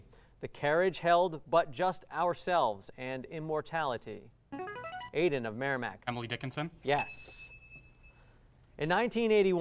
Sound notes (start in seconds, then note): 4.2 ringing; 7.0 ding